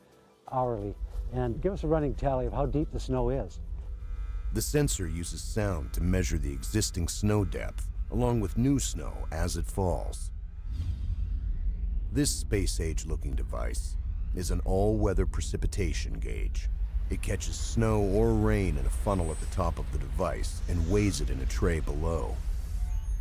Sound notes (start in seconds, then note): 2.6 voiceover; 16.7 voiceover